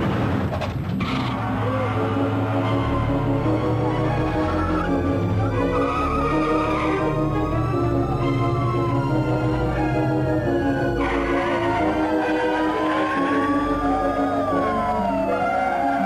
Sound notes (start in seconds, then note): 1.0 cars revving up, police sirens